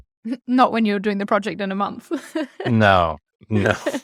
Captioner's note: laughs